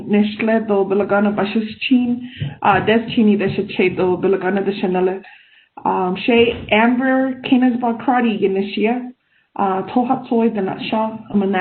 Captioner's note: speaking in native language